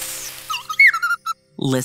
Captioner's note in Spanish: Chirridos